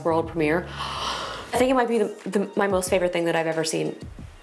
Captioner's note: gasps